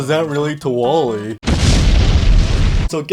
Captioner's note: explosion